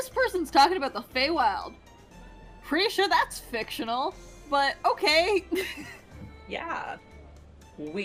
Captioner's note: laughs